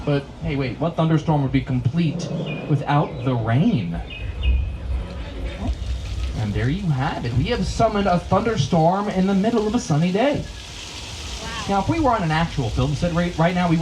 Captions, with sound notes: But hey, wait, what thunderstorm would be complete without the rain? (thunder rumbles) (rain spatters) And there you have it. We have summoned a thunderstorm in the middle of a sunny day. - Wow. - Now, if we were on an actual film set right now,